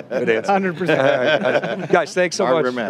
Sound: laughing

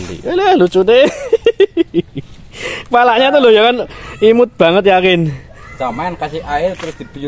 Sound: laughs

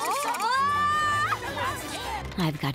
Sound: screaming

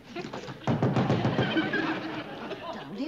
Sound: pounding on door

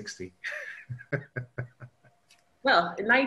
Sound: laughs

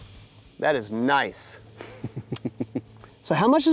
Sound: laughs

